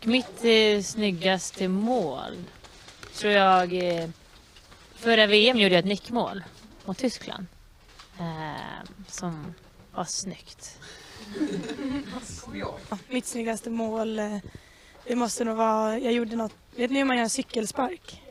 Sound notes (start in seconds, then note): 10.9 laughter